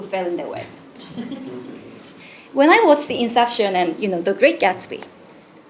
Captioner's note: laugh